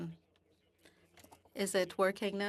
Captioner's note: speaking French